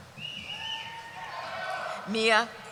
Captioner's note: cheering